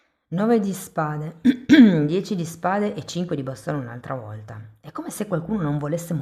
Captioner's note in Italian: schiarire la voce